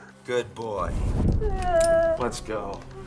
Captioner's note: whimpering